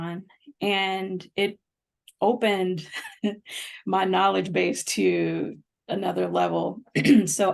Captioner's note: laughter